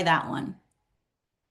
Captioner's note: silence